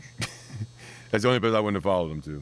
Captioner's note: laughing